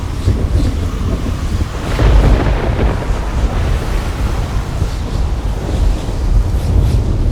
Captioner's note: thunderclap